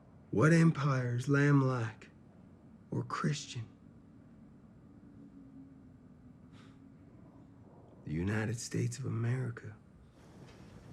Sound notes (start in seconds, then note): none